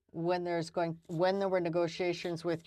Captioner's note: speaking french